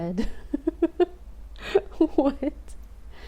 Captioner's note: laughing